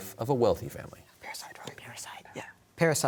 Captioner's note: whispering